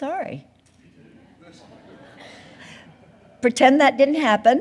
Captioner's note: audience laughing